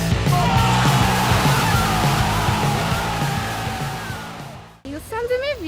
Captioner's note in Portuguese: gritos de gol